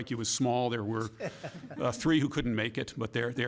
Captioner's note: laughter